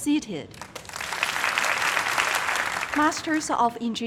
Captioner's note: crowd applauding